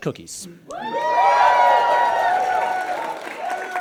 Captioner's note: audience cheers and applauds